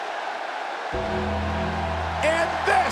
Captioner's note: audience cheers; ominous music